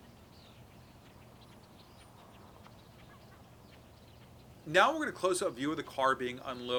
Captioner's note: birds chirping